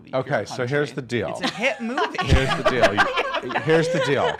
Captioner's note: laughing